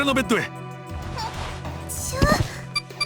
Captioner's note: more lifting grunts